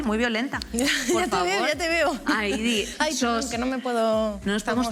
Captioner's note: laughs